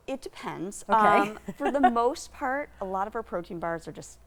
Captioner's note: chuckles